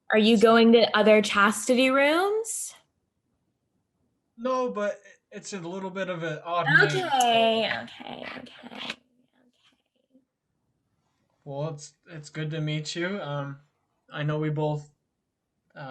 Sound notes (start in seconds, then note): 9.9 whispers